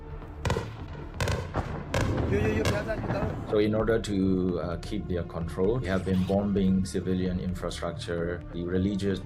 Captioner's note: shots